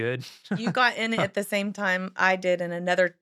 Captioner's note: laughing